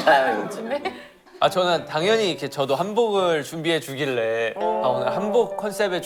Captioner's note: rambling